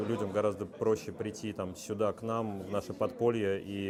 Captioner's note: speaking Foreign Language